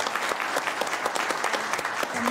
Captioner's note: applause